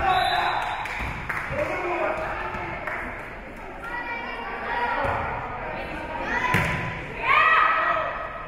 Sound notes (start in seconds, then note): 0.0 whistle being blown; 1.7 spectators shouting encouragements